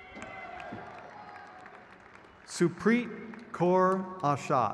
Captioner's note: crowd cheers